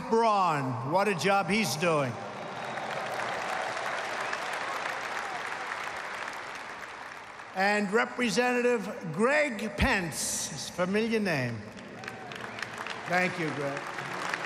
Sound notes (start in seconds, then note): 1.8 applause